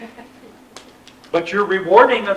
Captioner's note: laughter